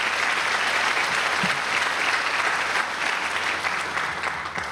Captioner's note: applause